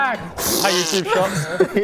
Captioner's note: fffpbbbt!